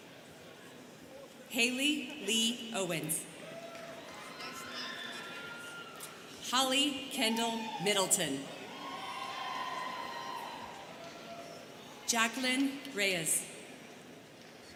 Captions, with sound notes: Hayley Li Owens. (students cheering) Holly Kendall Middleton. (students cheering) Jaquelyn Reyes.